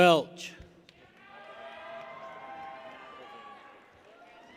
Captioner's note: people cheer